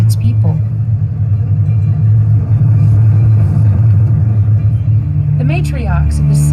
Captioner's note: unsettling rumbling